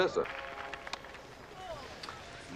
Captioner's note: applause